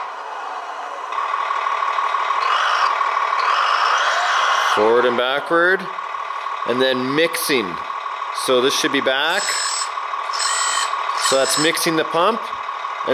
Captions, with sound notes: (revving) forward and backward, and then mixing, so this should be back. So that's mixing the pump,